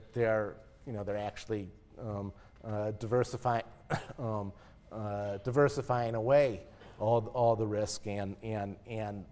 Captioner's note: cough